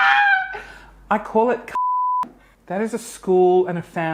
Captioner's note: beep